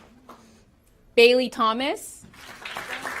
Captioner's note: applause